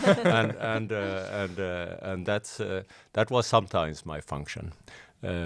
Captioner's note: laughing